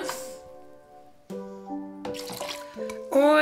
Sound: pouring

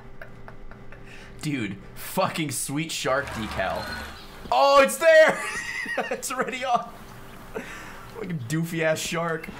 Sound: laughs; laughs

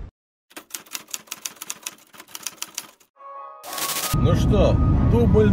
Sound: typewriter

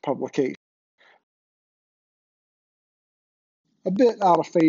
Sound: audio cuts out

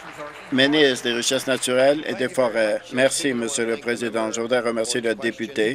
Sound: applause

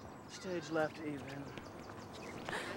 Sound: gasps

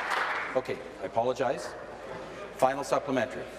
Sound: applause

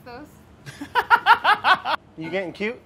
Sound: laughs

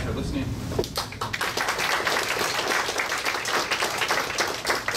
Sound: audience clapping

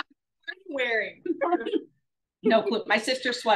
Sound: both laugh

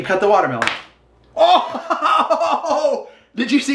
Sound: laughing

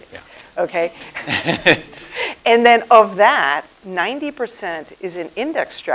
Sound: laugh

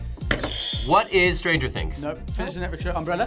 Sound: buzzer rings

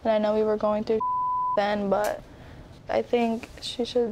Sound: beep

